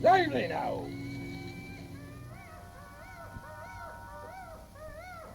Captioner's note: animal screeching